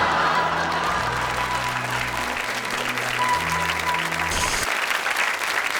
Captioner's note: audience laughs; audience applauds